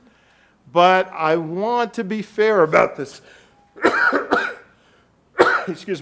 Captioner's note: coughs